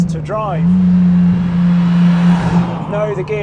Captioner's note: engine revving